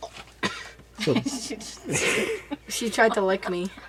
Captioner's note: laughs